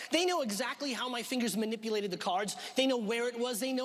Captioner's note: none